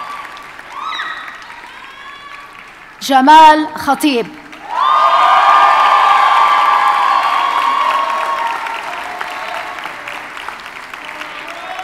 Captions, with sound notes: Jamal Hatib. (audience cheers and applauds)